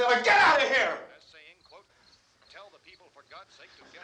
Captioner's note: radio: announcer continues speaking